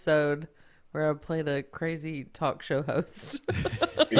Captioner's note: laughing